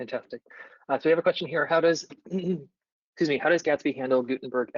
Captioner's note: clears throat